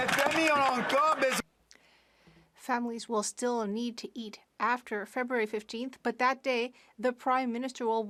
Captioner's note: some Applause